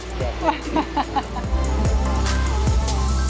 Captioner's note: laughs